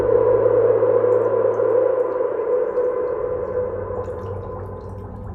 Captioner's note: water dripping